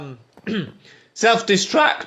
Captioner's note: clears throat